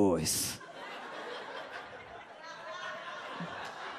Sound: audience laughs

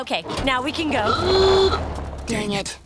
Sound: honking

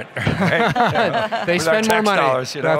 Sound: all laughing

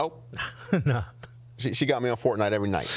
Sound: laughs

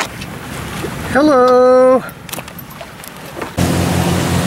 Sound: dolphins splashing

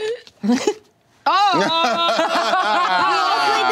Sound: laughing

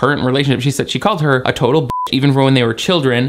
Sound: beep

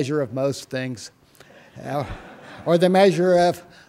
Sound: laughter

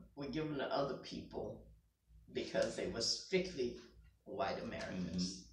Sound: none

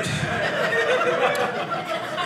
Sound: audience laughing

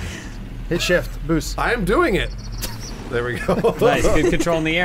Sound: laughing

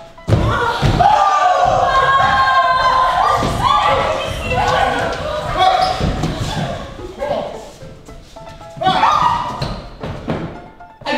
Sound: scream

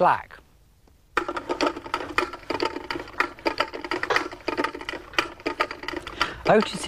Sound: ratchet noise

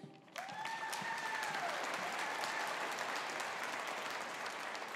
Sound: audience applauding

